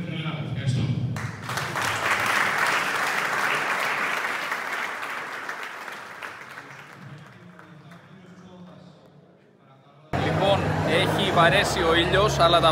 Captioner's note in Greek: χειροκρότημα